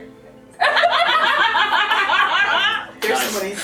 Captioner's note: more Laughter